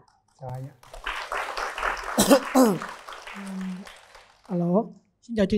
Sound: clap

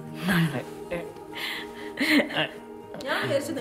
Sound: both giggling

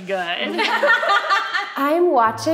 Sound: laughing

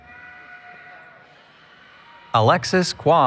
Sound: cheering

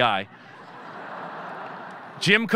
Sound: audience laughing

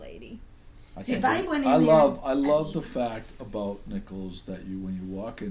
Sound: voiceover

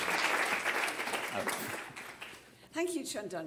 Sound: applause

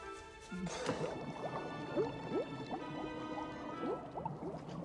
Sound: bubbling

